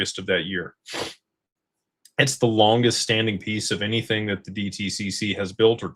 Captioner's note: snorts